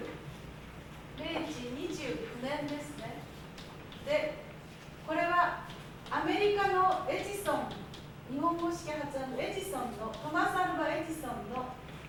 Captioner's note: speaking Japanes